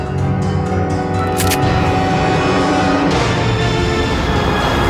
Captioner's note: gun clicking